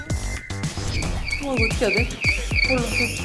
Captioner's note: beep beep beep